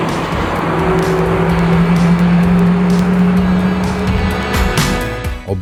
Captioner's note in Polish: szum silnika